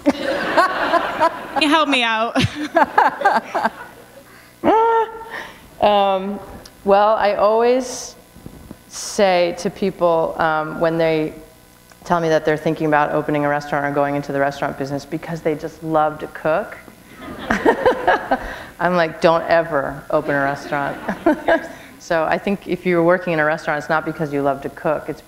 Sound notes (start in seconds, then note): 2.3 laughter; 3.4 chuckle; 18.3 chuckle; 21.5 chuckle